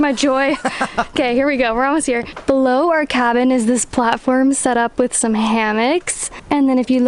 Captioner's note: laughs